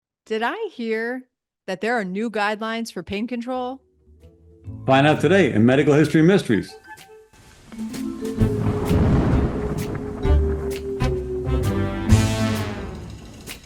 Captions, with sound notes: - Did I hear that there are new guidelines for pain control? - Find out today in "Medical History Mysteries." (playful, mysterious music) (thunder rumbling)